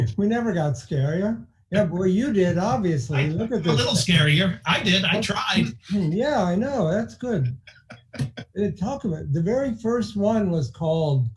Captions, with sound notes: We never got scarier. Well, you did, obviously. Look at this thing. - I'm a little scarier. I did, I tried. - Yeah, I know. That's good. (laughing) Talk about, the very first one was called